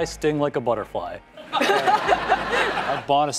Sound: laughter

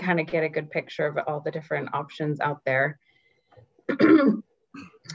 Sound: clears throat

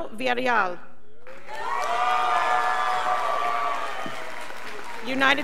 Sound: scholars applauding

